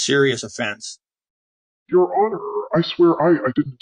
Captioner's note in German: verzerrt, stammelnd